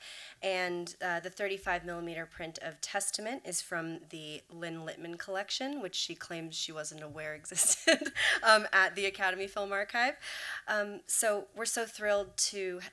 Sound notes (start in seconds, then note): 8.1 laughing